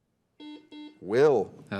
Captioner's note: buzzer dings